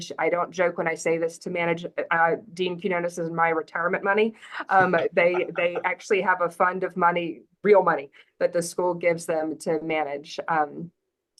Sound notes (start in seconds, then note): 4.6 laughs